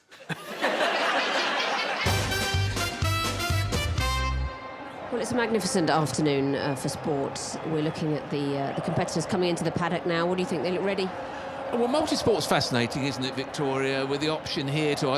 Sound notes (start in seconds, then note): 1.6 audience laughing; 2.0 up-tempo music